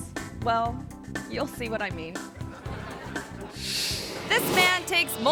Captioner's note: audience laughing